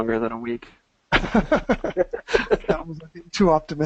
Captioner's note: laughing